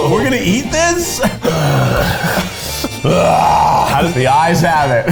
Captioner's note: grunting